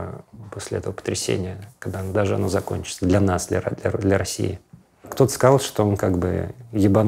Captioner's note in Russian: none